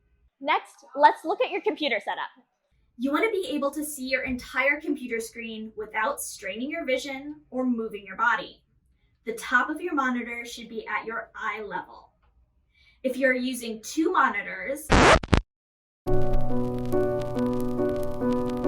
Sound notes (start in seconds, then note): 14.9 record scratch; 16.1 sad piano music